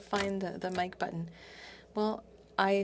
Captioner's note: speaking French